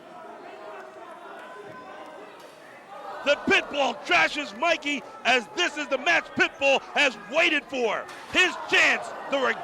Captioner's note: crowd chatter